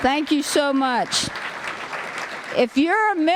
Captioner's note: applause